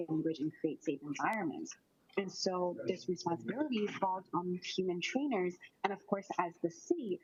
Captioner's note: audio distorted